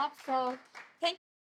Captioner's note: audience applauds